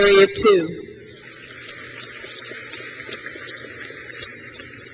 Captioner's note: crowd claps